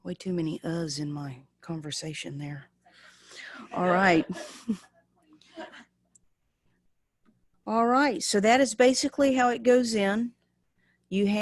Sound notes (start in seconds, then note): 3.7 laughing